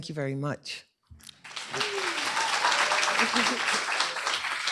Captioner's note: cheers, applause